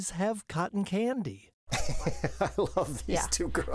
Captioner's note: laughs